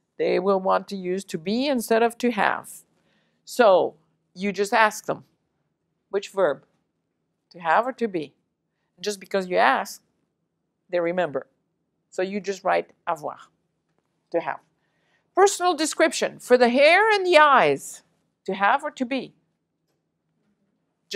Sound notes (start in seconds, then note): 13.7 french